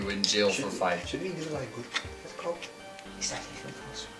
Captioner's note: whispering